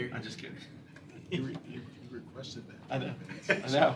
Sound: laughter

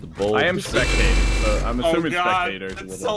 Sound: noises from Hell

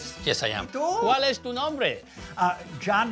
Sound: speaking in Spanish

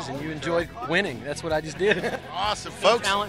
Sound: laughter

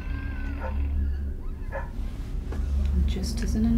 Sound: dog barking outside apartment

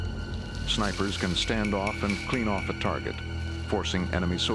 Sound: voiceover

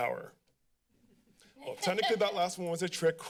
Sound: laughter

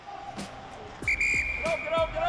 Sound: whistle blows

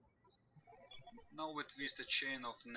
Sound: birds chirping

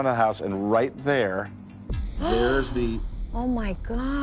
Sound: gasps

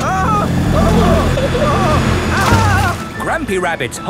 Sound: grandpa screaming

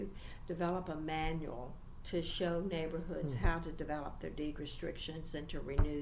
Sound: resumes tapping table

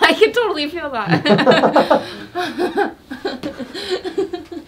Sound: hysterical laughter

